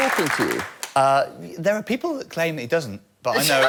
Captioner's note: laughter